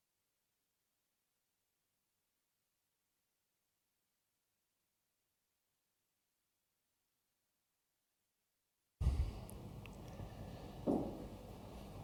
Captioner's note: silence